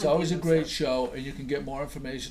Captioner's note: voiceover